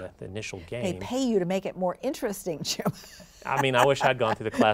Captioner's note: laughs